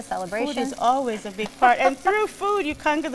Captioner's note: laughs